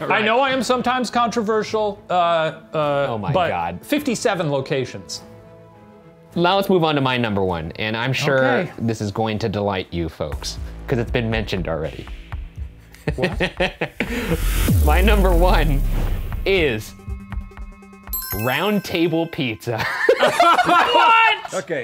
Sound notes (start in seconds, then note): 13.0 laughing; 14.5 tense music; 18.1 ding; 19.7 all laughing